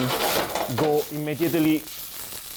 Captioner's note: pan shuffling on burner; onions sizzling